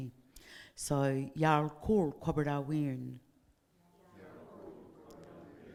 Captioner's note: speaking in foreign language